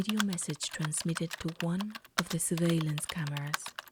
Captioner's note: keyboard Typing Sounds